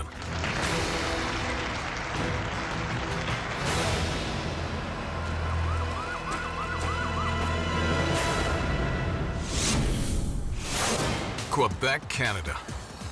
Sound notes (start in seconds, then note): 0.0 audience clapping; 5.2 siren; 9.6 logo squishes